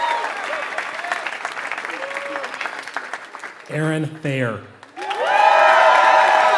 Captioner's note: applause